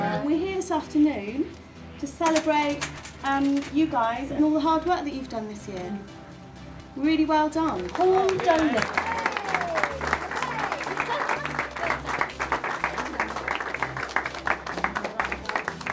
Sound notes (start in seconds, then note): 9.1 cheers and clapping; 13.6 clapping